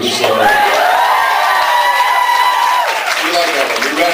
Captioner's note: screams, cheers, applauds